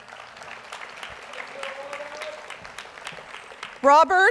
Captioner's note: audience applauds